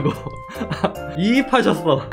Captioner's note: laughs